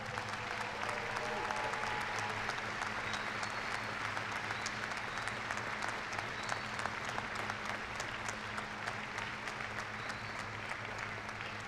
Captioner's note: cheers and applause